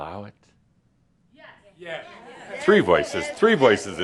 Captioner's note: a few people shout “Yes”